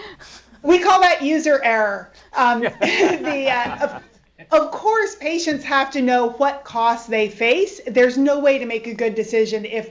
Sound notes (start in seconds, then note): 2.4 laughter